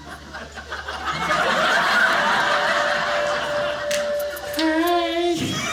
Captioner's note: audience laughing